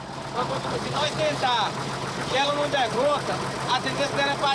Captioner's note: Portuguese spoken audio